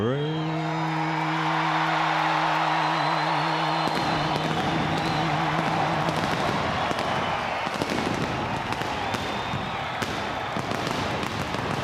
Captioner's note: crowd cheering